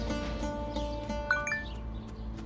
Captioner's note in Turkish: Mesaj sesi